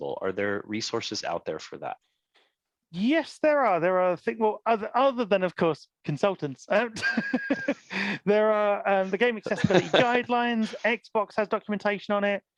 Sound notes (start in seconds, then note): 6.8 laughs